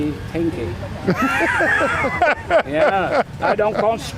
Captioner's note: laughing